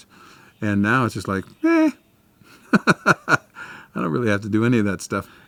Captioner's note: laughs